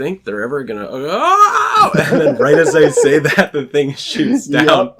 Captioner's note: laughs